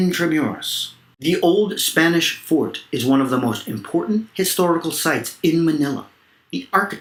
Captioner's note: Spanish